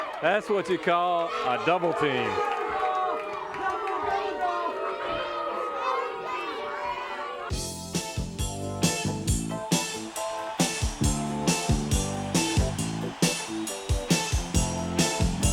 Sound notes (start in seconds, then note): 3.2 crowd jeering; 7.6 upbeat jazz music